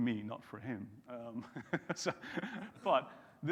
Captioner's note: chuckles